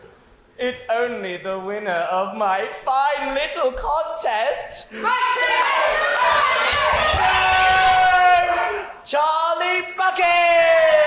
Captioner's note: audience shouting Mike TV